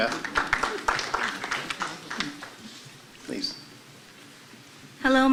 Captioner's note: applause